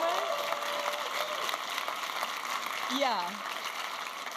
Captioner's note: audience applauding and cheering